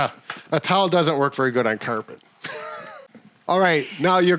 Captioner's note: chuckles